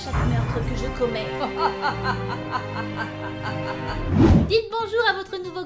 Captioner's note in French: rires diaboliques